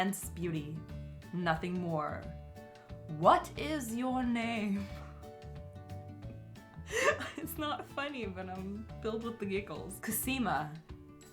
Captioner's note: laughs